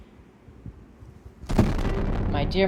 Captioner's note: boom